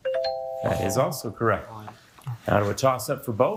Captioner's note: bell ringing